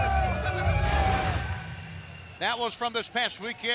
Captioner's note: crowd cheering; logo whooshing